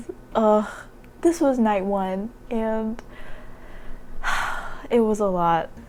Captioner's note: sigh